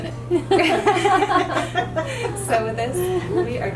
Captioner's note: laughter